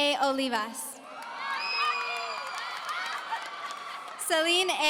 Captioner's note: audience cheering